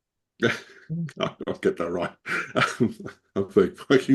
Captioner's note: laughs